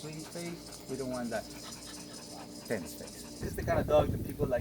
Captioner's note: panting